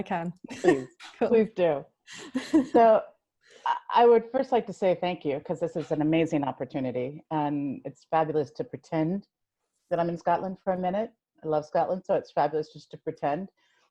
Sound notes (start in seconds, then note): 2.2 chuckles